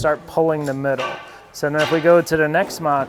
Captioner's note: tool bangs